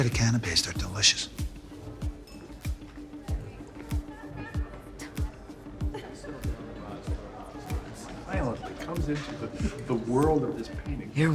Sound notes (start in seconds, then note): 2.7 people chattering and laughing